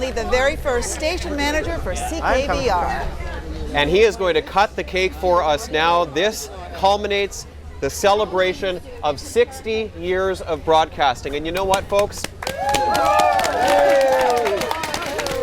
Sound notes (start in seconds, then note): 11.6 applause